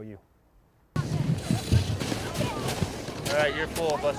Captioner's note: shovelling snow